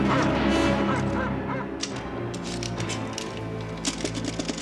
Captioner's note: mesin tik malas